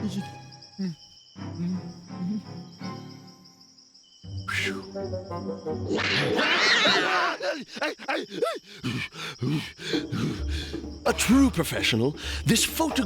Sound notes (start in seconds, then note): 5.9 cat screeching; 7.4 whimpering; 9.0 hyperventilating